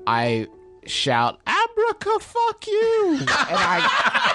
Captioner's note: laughter